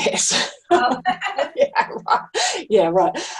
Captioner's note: both chuckle